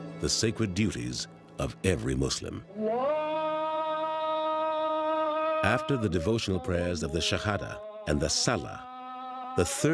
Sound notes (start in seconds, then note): 2.7 chanting